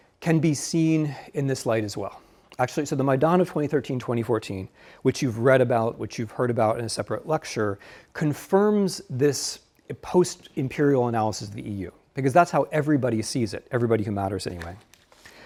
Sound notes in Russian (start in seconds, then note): none